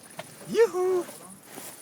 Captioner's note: joyful cry